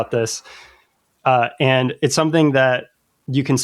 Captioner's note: uh